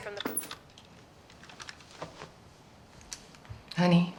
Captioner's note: TV clicks off